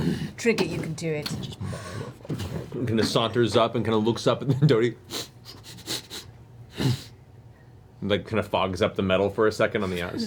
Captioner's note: bear sniffing, snorts